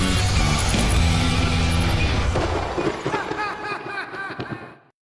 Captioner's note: laughs; lightning strikes